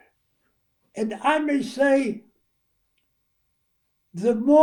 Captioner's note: none